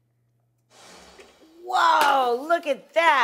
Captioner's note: air whooshing